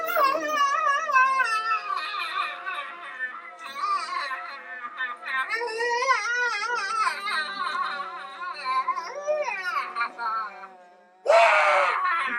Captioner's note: high pitch man scream